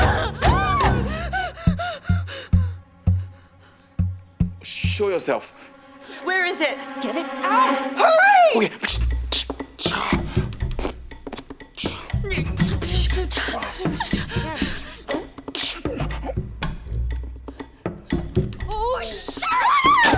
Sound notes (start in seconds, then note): 2.3 both women screaming; 2.3 dramatic music; 9.9 suspenseful music; 11.8 medium chanting